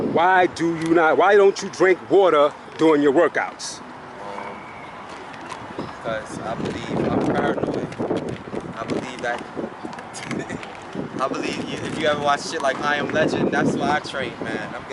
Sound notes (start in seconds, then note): 10.1 laughs